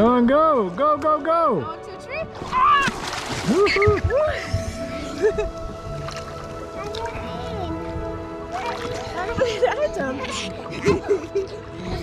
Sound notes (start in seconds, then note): 2.6 screaming; 3.6 cheering; 7.0 mumbling